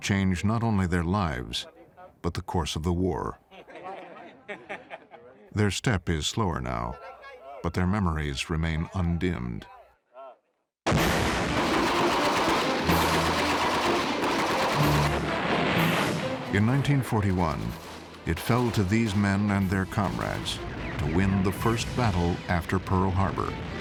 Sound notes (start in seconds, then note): 10.5 explosion; 11.4 gunfire